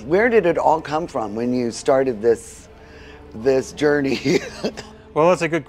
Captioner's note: laughs